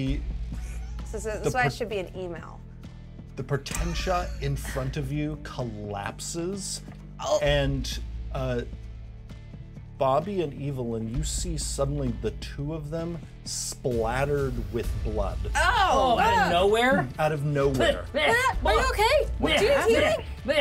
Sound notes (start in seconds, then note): 4.0 speaker chuckles